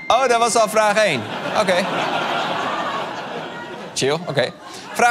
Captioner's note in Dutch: ping